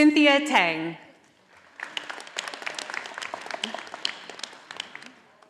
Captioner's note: audience applauding